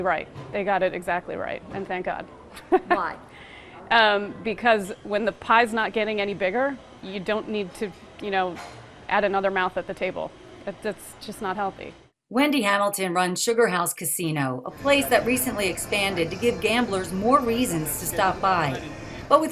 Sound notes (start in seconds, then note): 2.5 chuckling